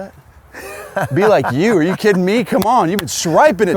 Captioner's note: laughs